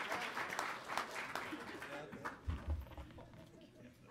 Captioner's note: people conversing